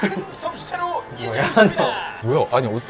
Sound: laughing

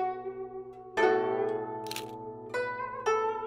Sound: shutter clicks

